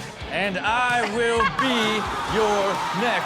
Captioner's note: men cheering